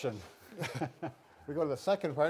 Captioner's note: chuckles